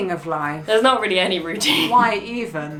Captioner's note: laughs